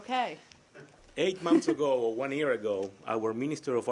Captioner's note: laughter